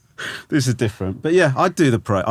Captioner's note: Romesh laughing